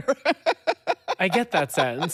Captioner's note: laughs